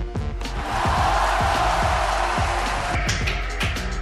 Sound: applause

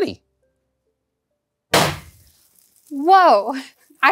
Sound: bang

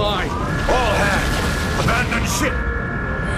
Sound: alarm

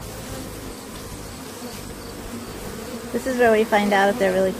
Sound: bees buzzing

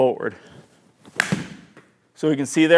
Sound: golf club thudding

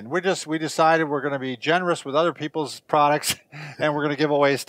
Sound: laughs

